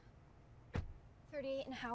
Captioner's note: car door closes